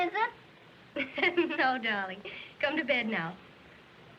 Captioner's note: chuckling